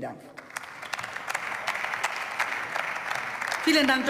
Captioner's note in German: Beifall